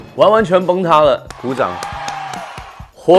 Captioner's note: All fans of "Unchained Love" cheering